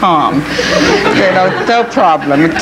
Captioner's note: audience laughing